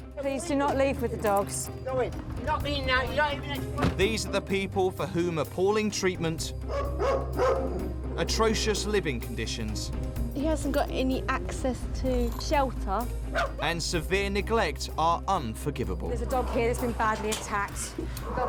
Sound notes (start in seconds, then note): 6.6 dog barking